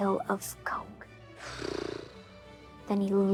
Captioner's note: sighs